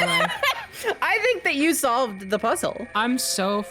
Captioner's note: laughs